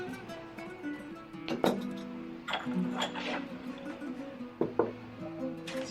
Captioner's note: soft guitar music; clunking of utensils